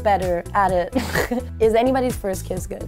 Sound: snort laugh

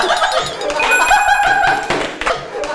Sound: beep

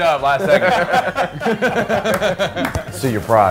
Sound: men laughing

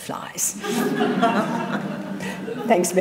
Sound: audience laughing

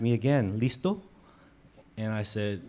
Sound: speaks in foreign language

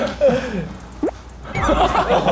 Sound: plop

